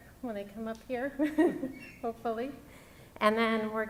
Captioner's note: laughs